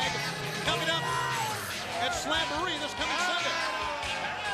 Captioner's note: crowd chatter